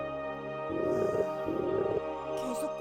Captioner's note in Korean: 꼬르륵 소리